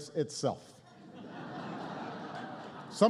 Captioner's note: laughter